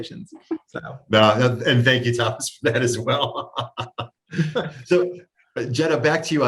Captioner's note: laughs